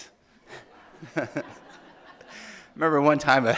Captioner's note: audience laughing